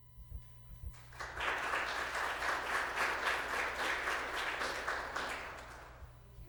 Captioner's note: applause